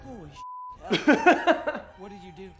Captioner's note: beep